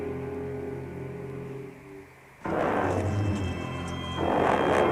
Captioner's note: growling